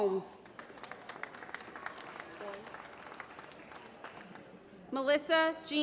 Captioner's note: applause